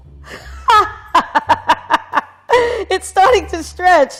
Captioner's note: laughs